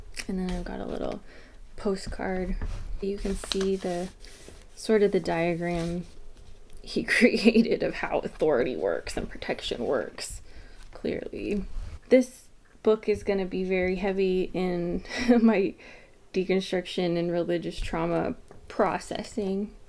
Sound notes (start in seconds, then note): 11.4 sarcasm